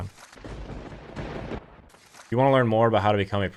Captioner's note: lightning cracking